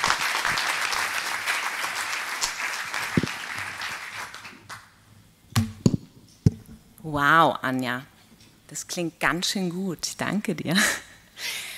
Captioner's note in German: applaus